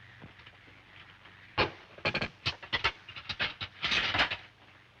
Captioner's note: utensils clatter